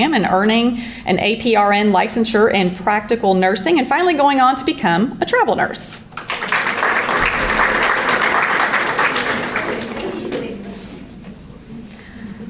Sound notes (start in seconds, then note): 6.1 audience applauding